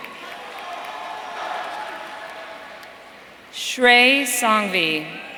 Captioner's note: audience cheering